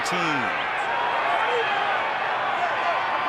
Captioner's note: cheering